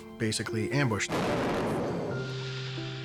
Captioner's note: explosion